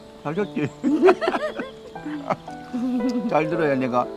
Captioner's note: both laughing